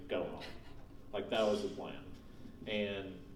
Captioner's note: laughing